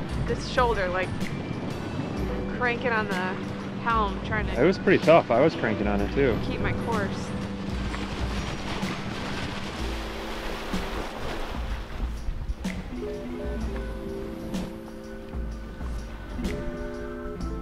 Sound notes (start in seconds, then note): 8.6 waves splash; 13.6 chill music